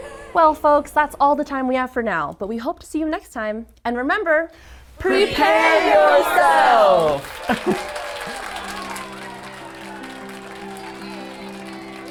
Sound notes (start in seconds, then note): 7.4 chuckling; 8.2 gentle music